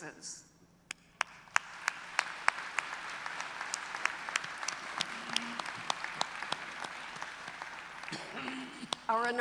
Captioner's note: applause